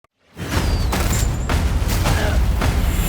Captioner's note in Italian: grugnisce; spari ed esplosioni